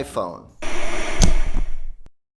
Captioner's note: static